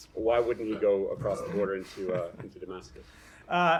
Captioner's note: laughter